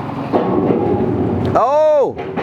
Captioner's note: claw banging